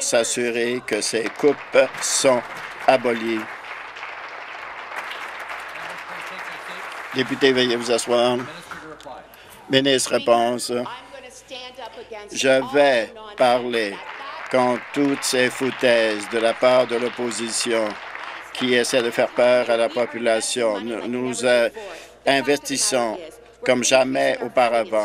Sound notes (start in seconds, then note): 3.6 applause